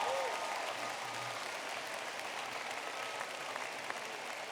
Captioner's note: applause